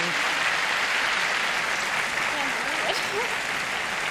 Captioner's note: applause